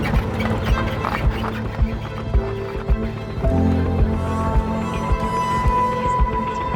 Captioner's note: gentle music continues; RV squeaking